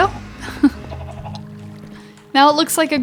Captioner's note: laughs